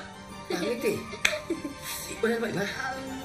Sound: laughs

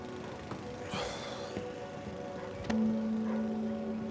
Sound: Jake sighing

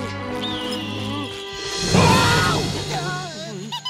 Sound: shrieking; giggling

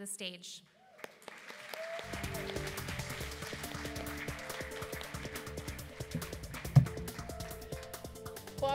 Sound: applause

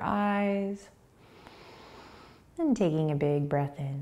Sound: inhaling

